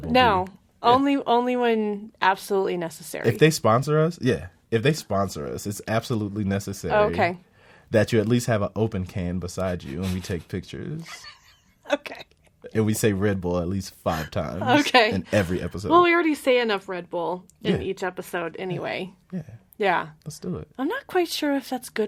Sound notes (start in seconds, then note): 12.3 laughs